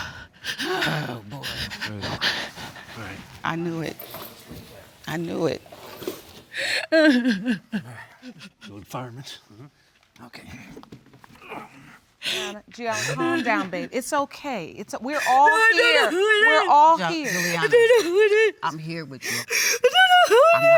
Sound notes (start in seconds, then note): 0.0 gasping; 6.7 crying